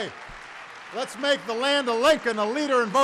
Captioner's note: applause